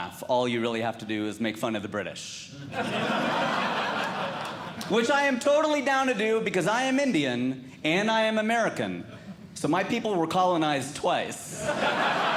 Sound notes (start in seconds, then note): 2.6 audience Laughing; 11.5 audience Laughing